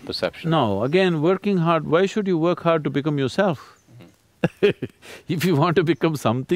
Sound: laughs

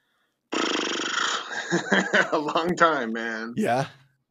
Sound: laughing

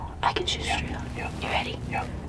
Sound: whispering

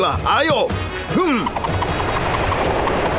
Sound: grunting

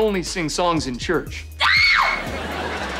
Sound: screaming

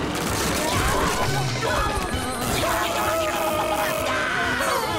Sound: screaming

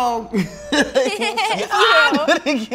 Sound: laughs

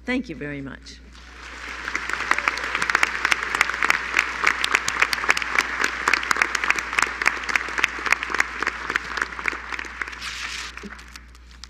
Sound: applause

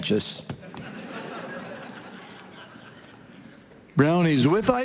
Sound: congregation laughing

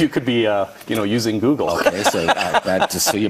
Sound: laughs

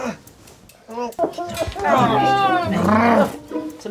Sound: cries

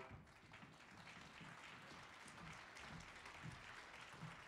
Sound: audience applauding

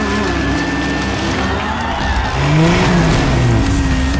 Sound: cheering; crowd Cheering

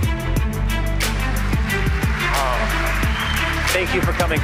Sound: audience applauding

